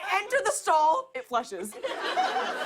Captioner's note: laughter